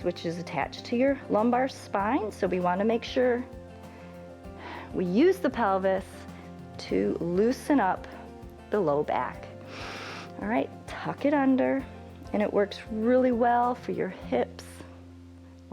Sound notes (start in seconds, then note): 9.6 inhales